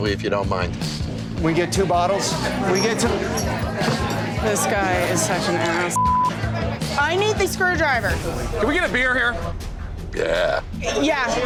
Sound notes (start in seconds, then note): 5.9 beep